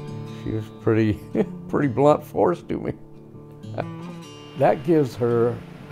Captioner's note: laughs